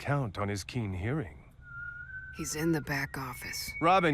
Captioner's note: whistling